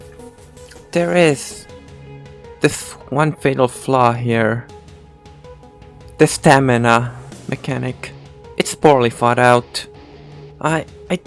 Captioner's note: breathing